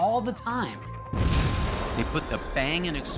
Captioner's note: explosion